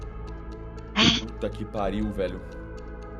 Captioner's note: sighs